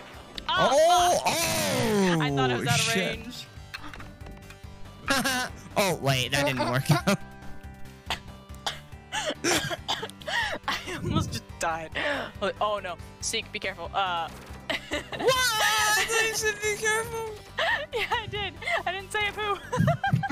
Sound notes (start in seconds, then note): 9.2 trying not to choke, coughs; 14.5 laughs